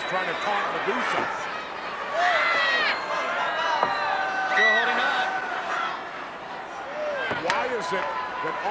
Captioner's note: applause